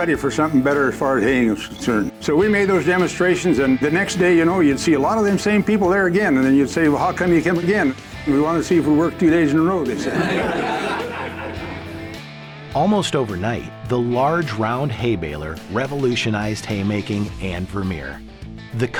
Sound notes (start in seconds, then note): 9.7 audience laughing